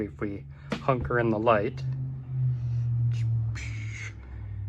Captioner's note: car passing; mouth noises